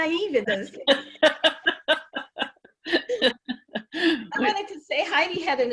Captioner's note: laughs; laughing